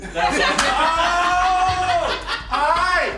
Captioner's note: all laughing